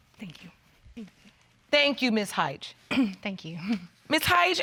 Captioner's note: clears throat